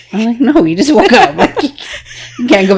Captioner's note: laughing